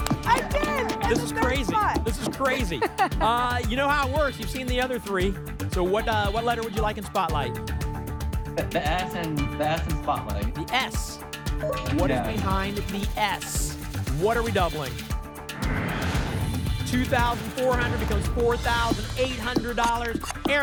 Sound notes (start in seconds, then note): 15.5 whoosh